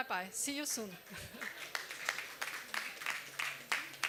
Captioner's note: applause